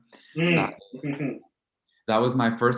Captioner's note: chuckling